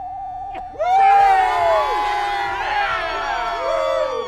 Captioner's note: crowd cheers